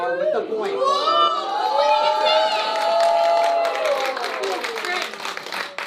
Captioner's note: cheering